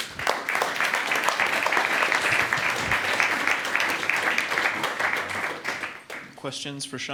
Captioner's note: crowd applause